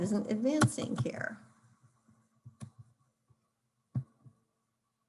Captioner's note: keyboard cluttering